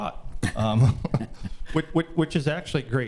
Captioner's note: trustees laughing